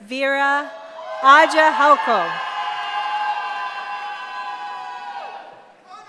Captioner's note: cheering